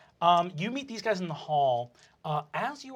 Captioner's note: normal voice